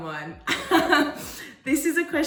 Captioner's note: laughing